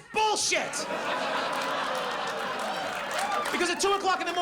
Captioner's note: audience laughs